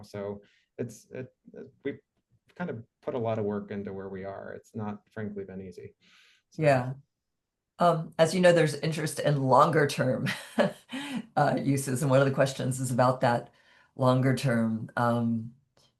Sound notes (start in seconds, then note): 10.6 chuckles